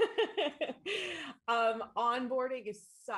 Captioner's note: laughs